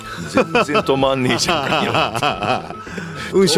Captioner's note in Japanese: 笑い